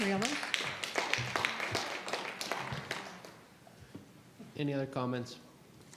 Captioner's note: audience applauds